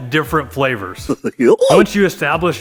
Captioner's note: man giggling goofily